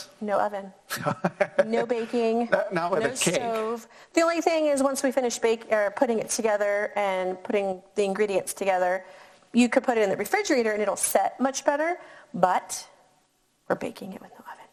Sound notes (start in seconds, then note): 0.9 laughing